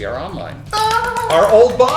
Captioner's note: clapping